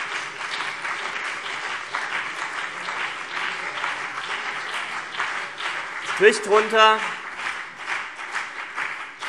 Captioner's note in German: Beifall CDU und BÜNDNIS 90/DIE GRÜNEN